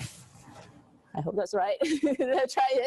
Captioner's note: laughs